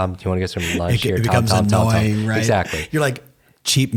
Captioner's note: laughs